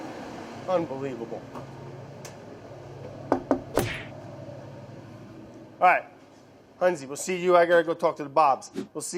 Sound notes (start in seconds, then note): 3.3 knocking on door; 3.7 whipping